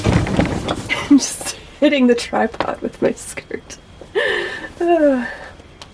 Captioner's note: laughs